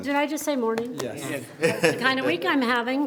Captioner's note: laughs